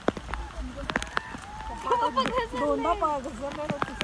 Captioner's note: trekkers yelling